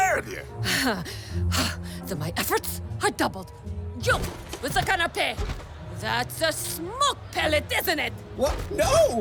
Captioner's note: panting with rage, grave